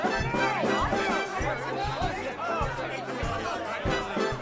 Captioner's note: lively chatter